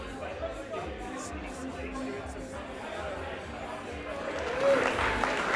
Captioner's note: conversations et musique